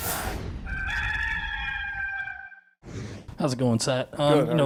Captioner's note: rooster crowing